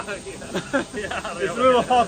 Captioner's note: laughing